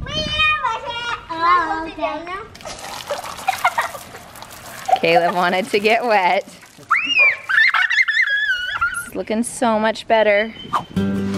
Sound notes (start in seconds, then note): 3.4 giggles; 6.4 yells; 11.2 playful music